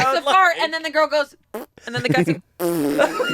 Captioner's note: blows raspberry daintily; blows raspberry loudly